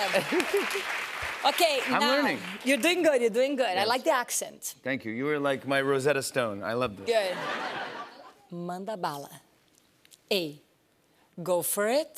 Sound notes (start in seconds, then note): 0.2 laughs; 7.2 laughter